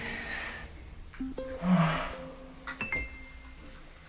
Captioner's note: sighs